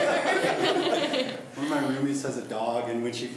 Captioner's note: laughs